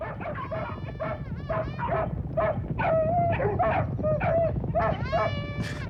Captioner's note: dog barking intensifies